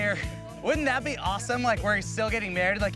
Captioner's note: laughs